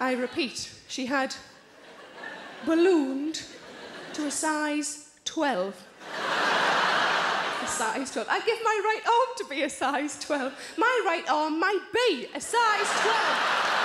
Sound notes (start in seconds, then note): 6.0 audience laughs; 12.9 audience applauds